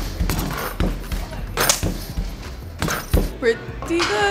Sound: basketball swooshes in hoop

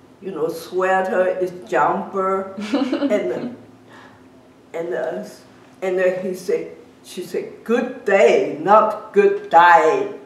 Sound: laughs

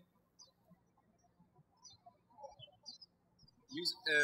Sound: birds chirping

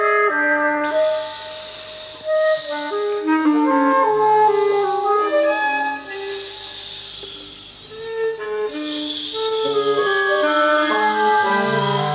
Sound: hisses

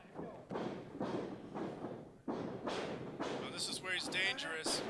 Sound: floor rumbling

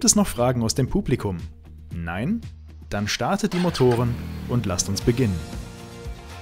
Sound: engine starts

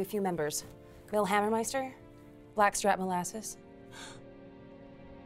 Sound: gasp

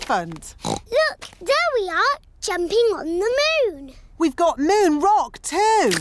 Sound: oinks

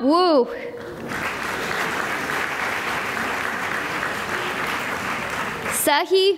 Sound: applause

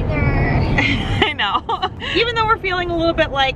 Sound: laughs

